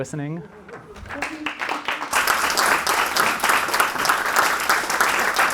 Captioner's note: audience applauding